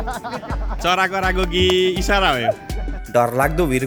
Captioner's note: laughter